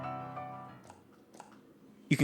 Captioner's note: clicking noises